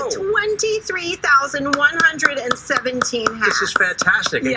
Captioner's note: applause